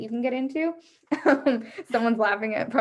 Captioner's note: chuckles